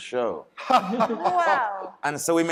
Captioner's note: panelists laughing